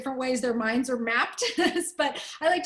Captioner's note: laughter